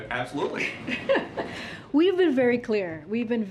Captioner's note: laughs